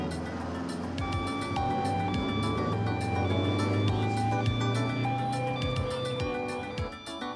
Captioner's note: siren beeping